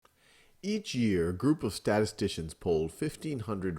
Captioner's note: voiceover